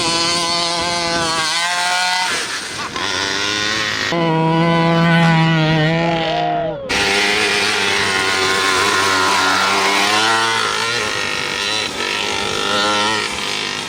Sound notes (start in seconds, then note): 0.3 truck engine revving; 7.8 truck engine revving loudly